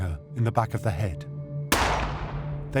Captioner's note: pistol shot